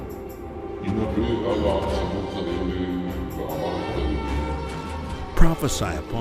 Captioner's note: deep voice speaking foreign language